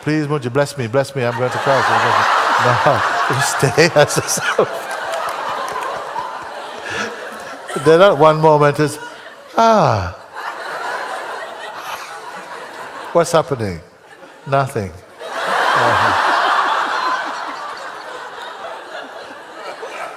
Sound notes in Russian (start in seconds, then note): 5.4 громкий смех; 15.1 смех в зале